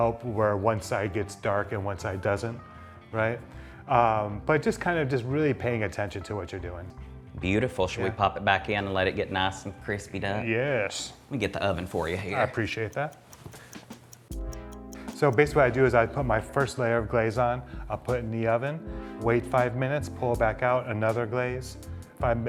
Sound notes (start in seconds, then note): 12.4 clock ticking; 13.6 slow groovy music